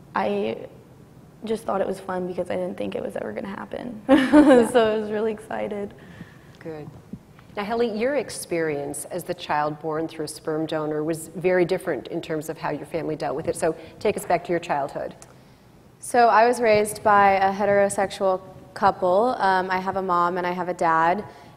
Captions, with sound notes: I just thought it was fun because I didn't think it was ever gonna happen. (laughs) So I was really excited. - Good. Now, Hilit, your experience as the child born through sperm donor was very different in terms of how your family dealt with it so take us back to your childhood. - So, I was raised by a heterosexual couple. I have a mom and I have a dad.